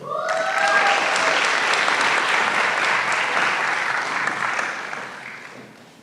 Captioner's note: applause